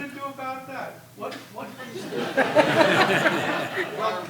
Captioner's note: laughing